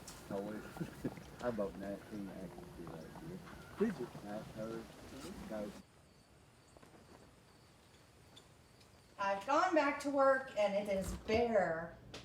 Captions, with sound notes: (group chattering) (birds chirping) - I've gone back to work and it is bare.